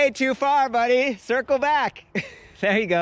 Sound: laughs

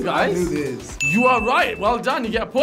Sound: bell dings

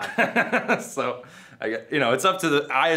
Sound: Frankie laughs

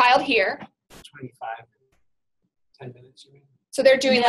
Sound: voiceover

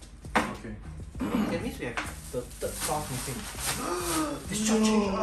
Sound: gasps

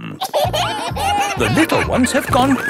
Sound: kids giggling

